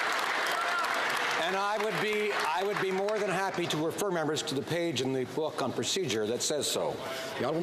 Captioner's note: some Applause